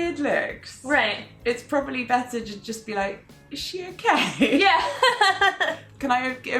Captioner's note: laughing